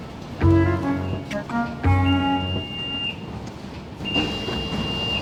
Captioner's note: happy music; beeps